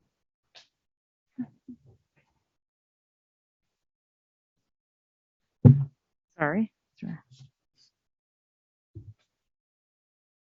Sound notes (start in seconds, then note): 5.6 thud